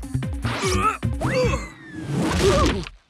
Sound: grunts

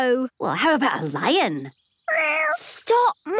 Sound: small meow

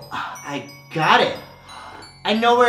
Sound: gasp

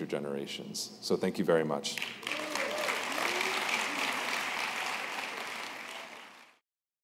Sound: applause

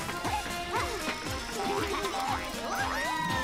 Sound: laughing

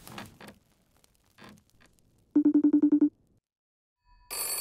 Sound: footsteps Approaching; phone Chimes; phone Ringing

